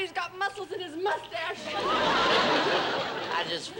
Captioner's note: laughter